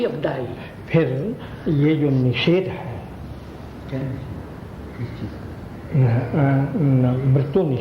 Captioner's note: discussion in Hindi